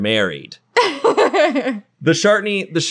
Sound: laughing

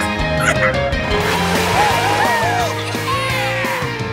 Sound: cheering

